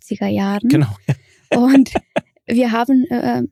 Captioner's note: lacht